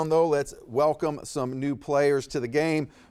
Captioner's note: none